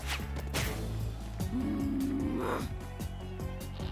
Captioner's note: growl